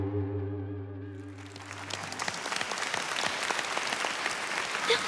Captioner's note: applause